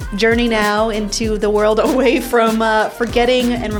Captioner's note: laughs